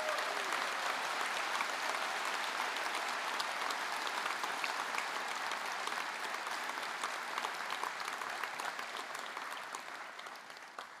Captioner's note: applause